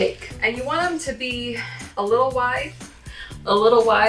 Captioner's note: sighs